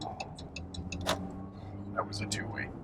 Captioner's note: blinker clicking